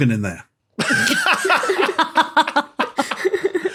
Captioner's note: group laughing